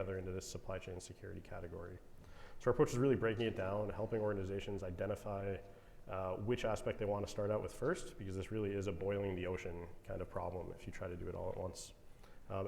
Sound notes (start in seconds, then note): none